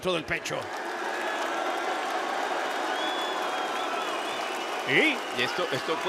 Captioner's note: applause